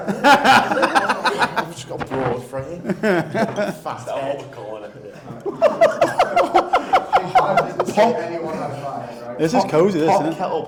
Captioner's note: laughter